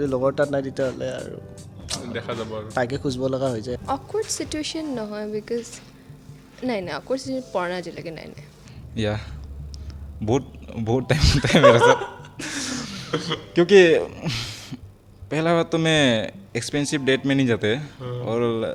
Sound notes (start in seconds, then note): 11.1 laughs